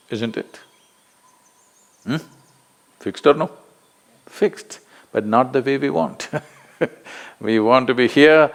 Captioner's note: laughs